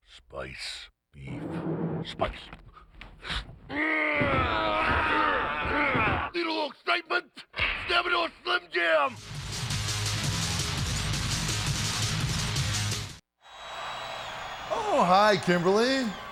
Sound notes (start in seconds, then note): 3.2 grunts; 9.2 rock music plays